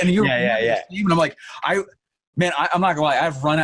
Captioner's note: laughing